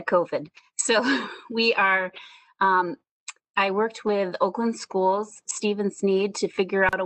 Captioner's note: chuckling